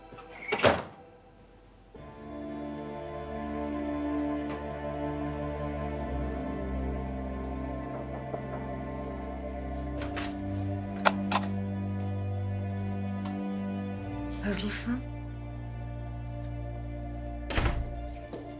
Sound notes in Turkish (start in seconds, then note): 9.8 Kapı açıldı